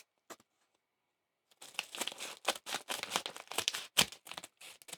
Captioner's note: scissors snipping